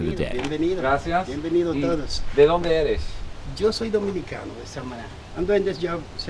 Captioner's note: non-english speech